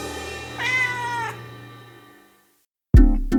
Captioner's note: cymbal clangs; cat meows; upbeat music